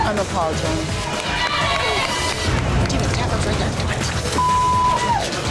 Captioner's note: patrons cheering; beep